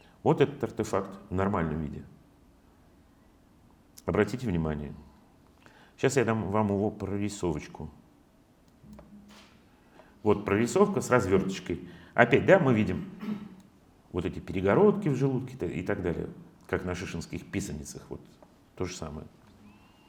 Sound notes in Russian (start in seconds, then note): 13.0 откашливается